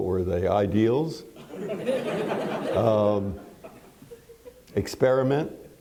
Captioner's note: laughter